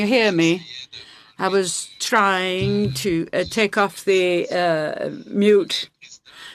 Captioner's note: speaking French